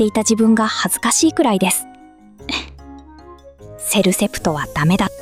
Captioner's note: laughs